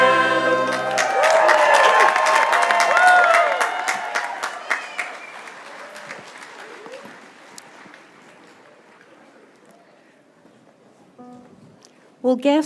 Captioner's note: cheers and applause